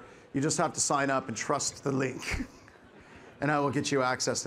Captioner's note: chuckles